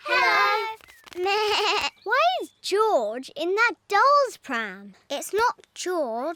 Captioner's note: bleats